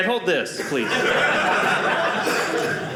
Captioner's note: audience laughing